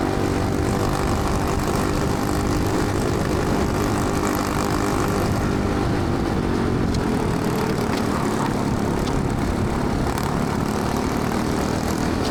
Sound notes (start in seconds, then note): 0.0 engine noise